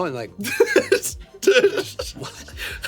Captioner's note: Anthony laughs